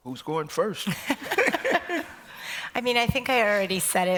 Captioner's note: laughter